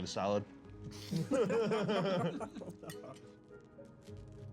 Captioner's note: laughs